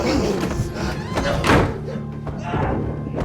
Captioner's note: door slams; yelling, banging